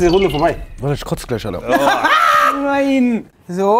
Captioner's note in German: Schrilles Lachen